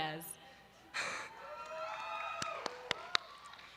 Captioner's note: cheering